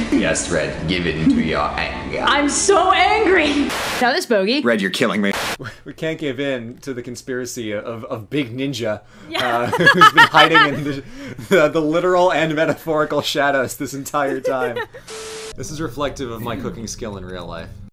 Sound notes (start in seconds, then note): 9.4 C: *laughs; 14.1 C: *giggles